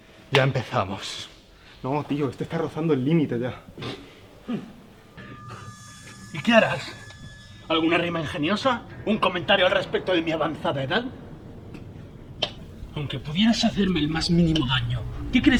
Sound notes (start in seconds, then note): 3.9 Briaro laughs derisively